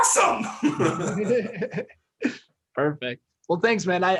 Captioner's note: laughing